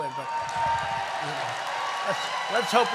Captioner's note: applause